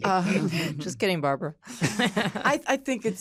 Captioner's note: laughter